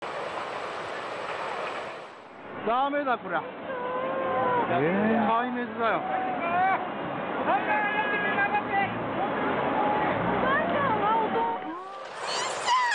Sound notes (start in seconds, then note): 0.0 screams